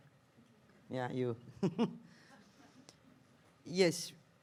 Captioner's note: laughs